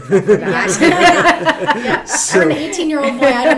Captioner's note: laughing